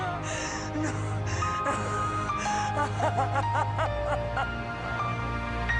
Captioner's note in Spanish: Sollozos